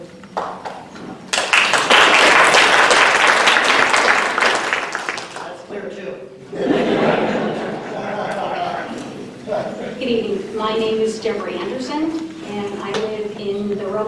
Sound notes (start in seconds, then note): 1.2 applause; 6.5 laughter